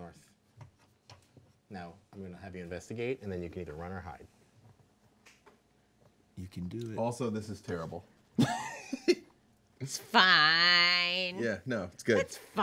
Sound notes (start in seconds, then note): 8.4 man chuckling